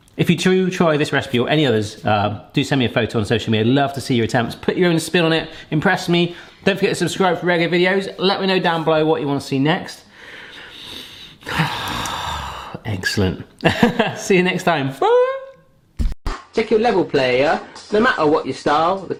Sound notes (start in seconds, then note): 10.7 sighs; 13.6 laughs